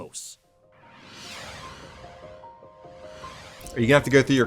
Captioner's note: gentle music; graphics whoosh